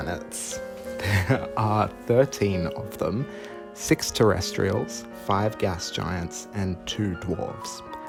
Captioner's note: thrilled giggle